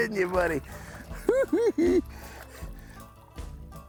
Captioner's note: chuckles